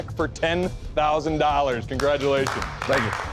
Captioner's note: applause